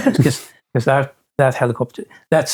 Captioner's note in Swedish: skrattar